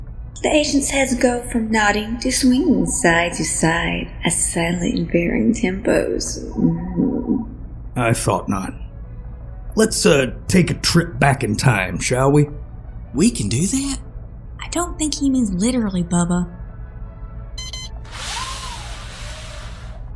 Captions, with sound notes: NARRATOR The agents’ heads go from nodding to swinging side-to-side at slightly varying tempos. Mmm... EDGAR I thought not. Let’s, uh, take a trip back in time, shall we? BUBBA [whispering] We can do that? CHARLENE [whispering] I don’t think he means literally, Bubba. [sound of projector screen automatically sliding down]